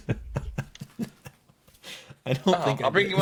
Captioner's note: laughing